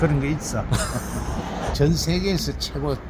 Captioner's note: laughs